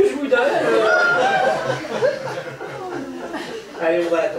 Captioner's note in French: rires public